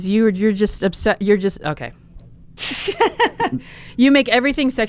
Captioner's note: laughs